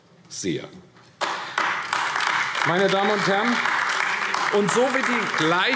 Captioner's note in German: Beifall AfD